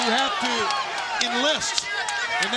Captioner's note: crowd chatter